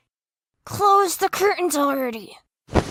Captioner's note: through gritted teeth